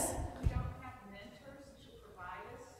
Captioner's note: voiceover